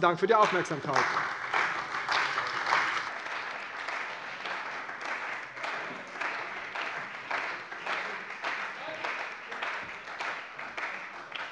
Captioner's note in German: Beifall bei der CDU und dem BÜNDNIS 90/DIE GRÜNEN